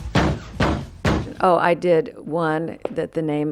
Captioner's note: banging